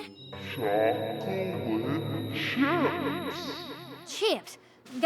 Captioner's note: distorted